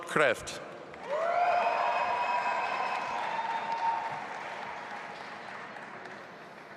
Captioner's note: audience applauding and cheering